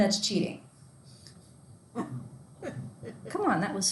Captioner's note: students laughing